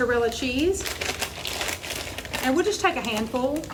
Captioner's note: plastic crinkling